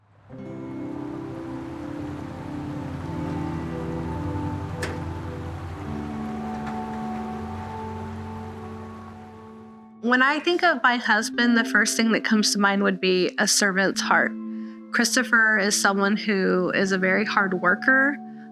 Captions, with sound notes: (gentle music) (water flowing) - When I think of my husband, the first thing that comes to mind would be a servant's heart. Christopher is someone who is a very hard worker